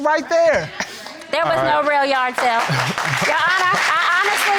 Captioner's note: audience applauding